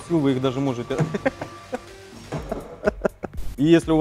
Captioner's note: giggles